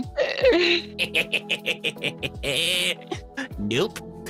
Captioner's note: laugh